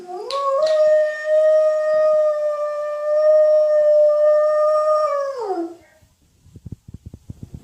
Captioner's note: howl